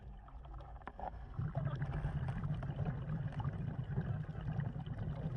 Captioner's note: water gurgling